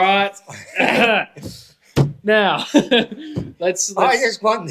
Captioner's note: laughter